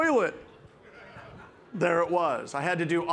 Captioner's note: participants laughing